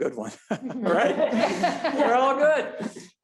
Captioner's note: board members laugh